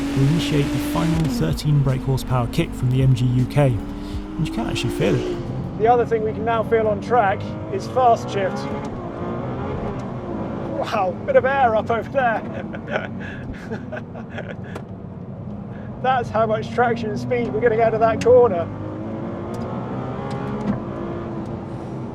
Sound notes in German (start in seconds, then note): 12.3 lacht; 18.1 Motor brüllt